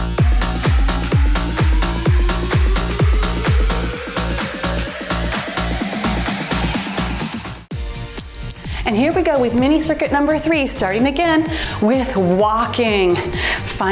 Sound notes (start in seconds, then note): 8.1 timer beeps